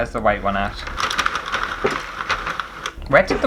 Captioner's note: plastic Rattling